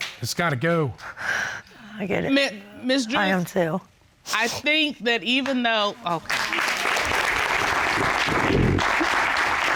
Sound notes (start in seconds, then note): 6.2 applause